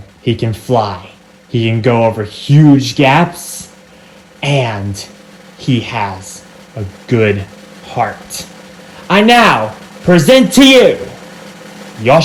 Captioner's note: 'green' section cheers